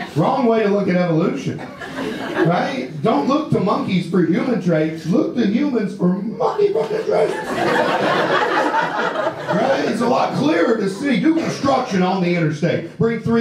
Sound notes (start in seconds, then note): 6.6 audience laughter